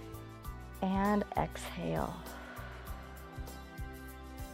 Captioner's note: exhales